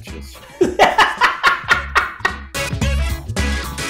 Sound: laugh

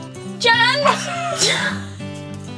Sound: laughs

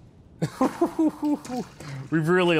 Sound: laughs

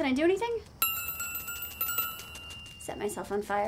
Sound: tink bells

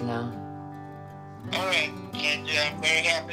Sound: on phone

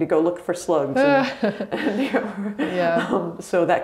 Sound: laughs

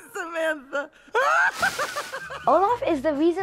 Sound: Olaf Laughs

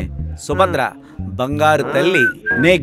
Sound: Subhadra whistles

